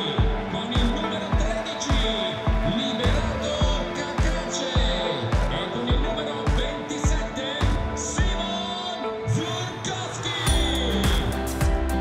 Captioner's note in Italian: Applauso; Applauso